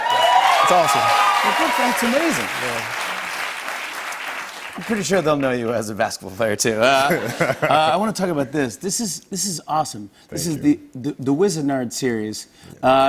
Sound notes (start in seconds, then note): 0.0 cheers and applause; 7.0 laughter